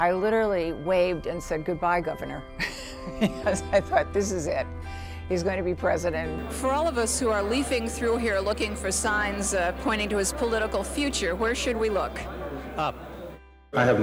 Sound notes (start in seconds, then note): 2.6 laughs